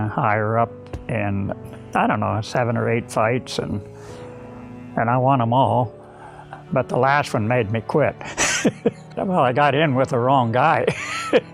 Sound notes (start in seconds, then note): 8.3 chuckles; 10.9 laughs